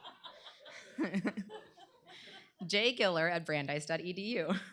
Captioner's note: laughter; chuckling